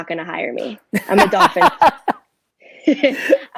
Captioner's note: laughs